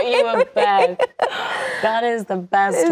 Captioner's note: laughing